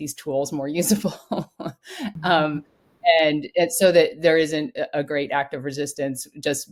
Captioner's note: laugh